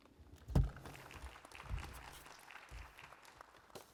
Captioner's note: applause